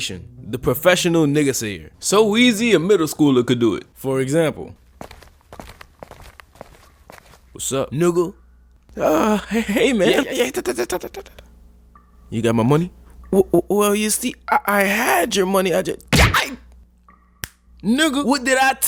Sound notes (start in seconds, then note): 10.5 shushes